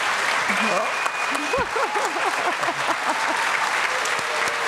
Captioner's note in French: applaudissements